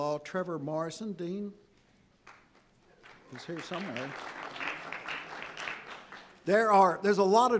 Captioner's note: audience applauding